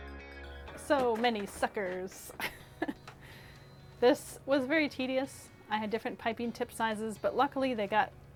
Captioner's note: laughs